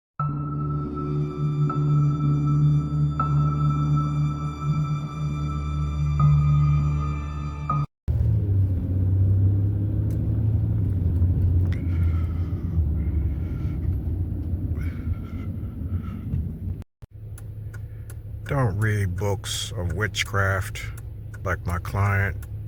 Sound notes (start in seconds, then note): 0.2 peaceful music; 8.1 engine roaring